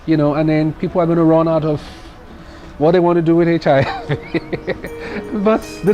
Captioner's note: laughs